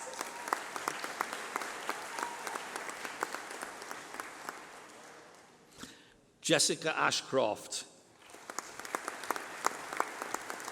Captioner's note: applause